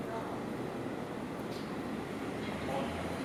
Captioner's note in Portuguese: sons da rua